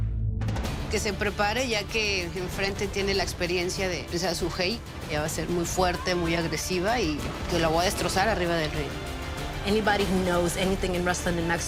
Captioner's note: speaking spanish